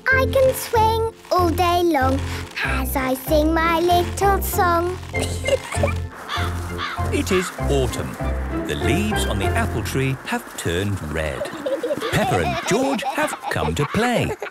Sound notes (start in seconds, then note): 5.2 giggling; 6.2 birds cawing; 11.3 laughter